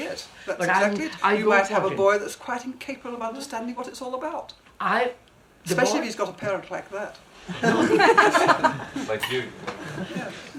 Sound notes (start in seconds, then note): 7.4 laughter